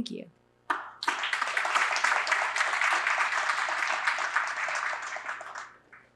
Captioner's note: applause